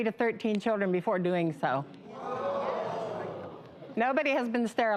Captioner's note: crowd gasping